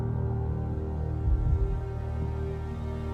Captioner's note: music slowing; steady heartbeat